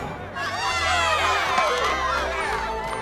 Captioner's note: crowd cheers